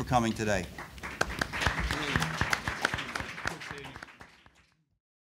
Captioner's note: applause